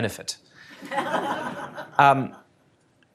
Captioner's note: laughter